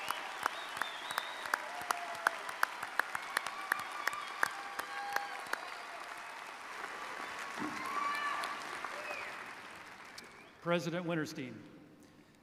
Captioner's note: applause